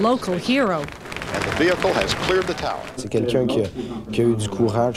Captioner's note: applause; speaking in French